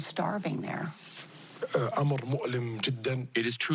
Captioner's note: speaks Arabic